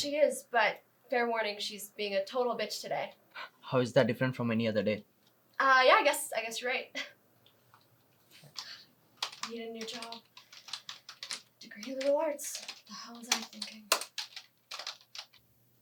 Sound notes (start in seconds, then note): 6.7 Zoe chuckles